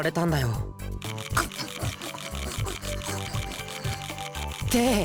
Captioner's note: scarfing